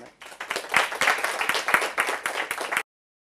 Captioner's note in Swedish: Applåder